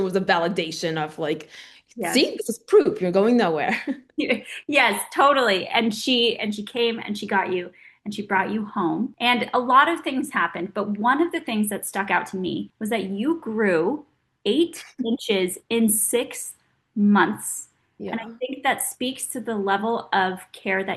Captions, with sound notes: was a validation of like- - Yeah. - See, this is proof, you're going nowhere. (laughing) - (laughing) Yes, totally. And she came and she got you and she brought you home. And a lot of things happened, but one of the things that stuck out to me was that you grew eight inches in six months. - Yeah. - And I think that speaks to the level of care